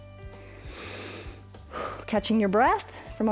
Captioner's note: inhales and exhales